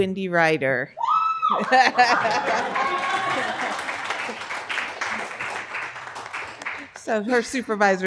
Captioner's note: loud cheer. laughter. applause